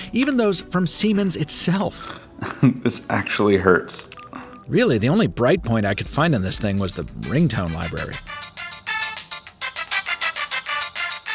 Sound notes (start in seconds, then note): 2.4 chuckling; 8.5 bouncy music